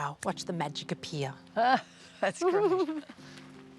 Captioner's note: laughs